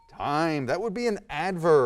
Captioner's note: ding